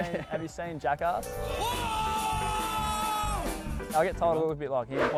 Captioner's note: Danger screaming